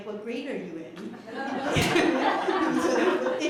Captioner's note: laughter